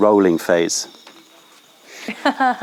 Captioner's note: laughter